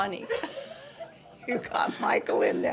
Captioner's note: laughing